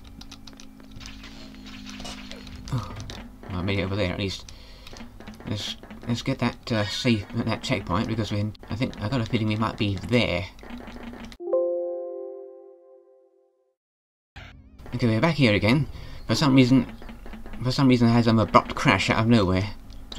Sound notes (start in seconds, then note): 2.6 sigh of relief